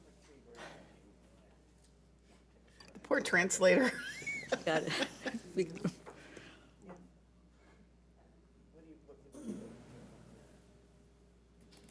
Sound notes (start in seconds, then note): 6.3 laughing